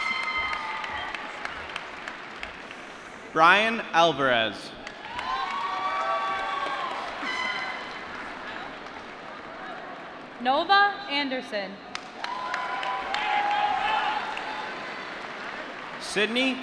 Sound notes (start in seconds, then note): 0.0 cheering; 4.8 applause; 11.9 applause